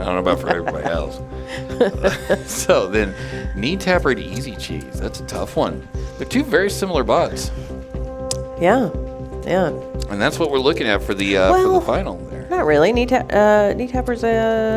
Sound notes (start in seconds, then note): 2.5 laughing